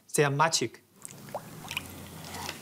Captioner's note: water rippling